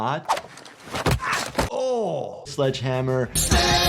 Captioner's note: sledgehammer thuds